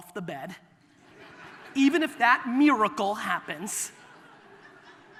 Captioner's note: audience laughter